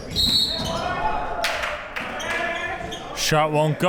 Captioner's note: whistle blows